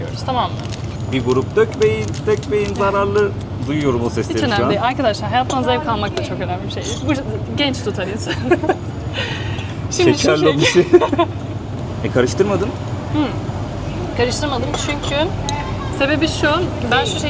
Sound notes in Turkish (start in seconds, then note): 8.2 kahkaha